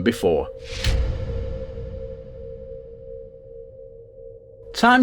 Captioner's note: sound FX